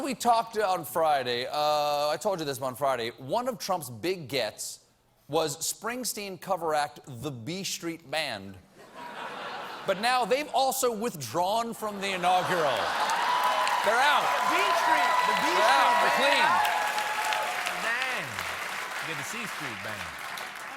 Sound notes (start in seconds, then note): 14.3 applause